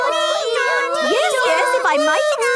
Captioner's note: children imitating sirens